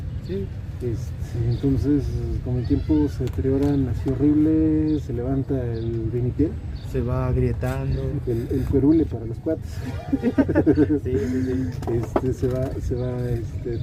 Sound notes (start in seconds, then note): 9.6 laughs